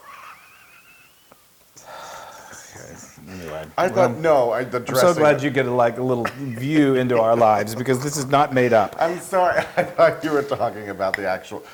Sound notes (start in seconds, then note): 0.0 laugh; 5.9 laugh